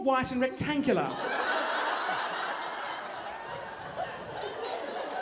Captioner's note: audience laughing